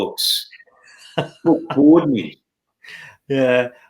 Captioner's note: chuckling